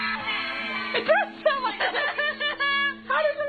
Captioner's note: laughing